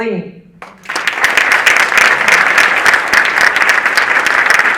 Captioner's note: audience applauding